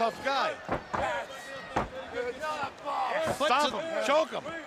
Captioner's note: crowd chatter